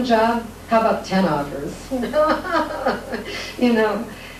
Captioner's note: laughs